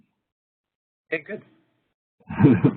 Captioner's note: laughter